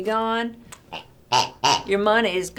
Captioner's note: toy pig oinks